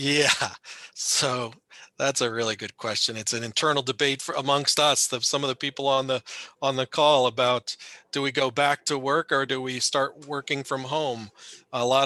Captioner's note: chuckling